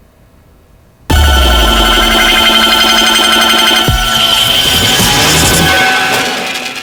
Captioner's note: intense electric whirring